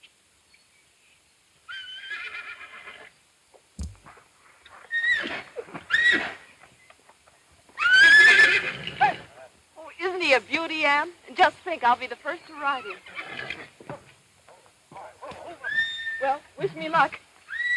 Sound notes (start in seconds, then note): 1.8 horse neighing; 5.0 horse neighing; 13.0 horse nickering; 17.5 horse neighing